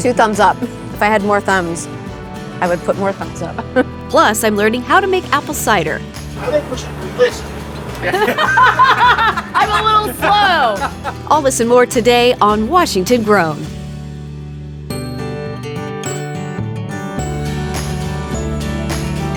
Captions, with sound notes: Two thumbs up. If I had more thumbs, I would put more thumbs up. Plus, I'm learning how to make apple cider. - I think we should replace her. [group laughing] - I'm a little slow. All this and more today on "Washington Grown." [vibrant music]